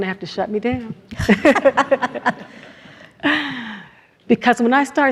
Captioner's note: everyone laughs